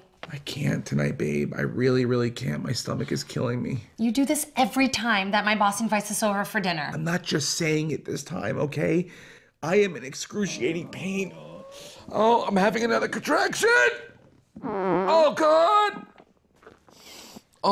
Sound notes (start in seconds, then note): 14.5 fart sound